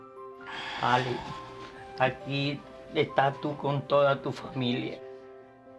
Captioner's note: speaking spanish